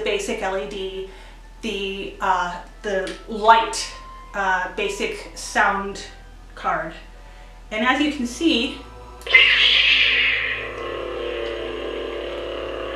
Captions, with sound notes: So I do have the basic LED. The "Lite" basic sound card. And as you can see... [startup sound effect]